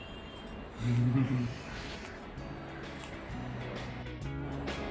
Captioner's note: laughter from system engineer